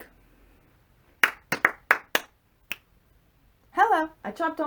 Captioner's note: clap clap clap snap